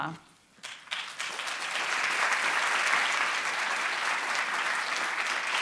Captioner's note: audience applauding